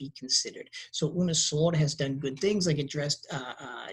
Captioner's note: speaking in a foreign language